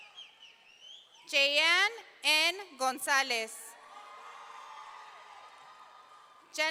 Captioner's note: audience cheering